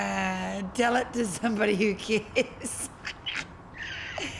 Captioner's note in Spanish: crujidos